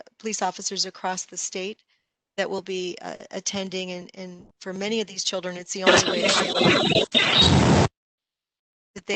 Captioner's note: electrinc noise